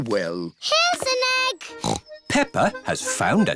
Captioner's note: snorts